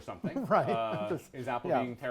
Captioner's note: laughs